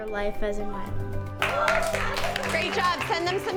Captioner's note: class clapping